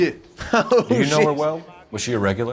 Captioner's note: laughs